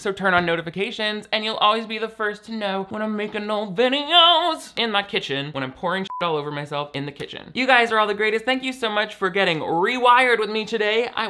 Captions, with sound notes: so turn on notifications, and you'll always be the first to know when I making new videos in my kitchen, when I'm pouring (beep) all over myself in the kitchen. You guys are all the greatest. Thank you so much for getting "Rewired" with me today.